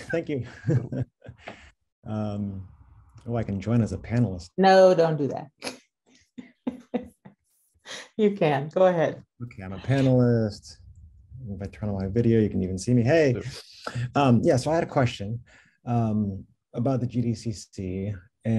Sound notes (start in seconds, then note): 6.2 laughs